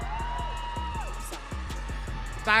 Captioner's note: audience cheering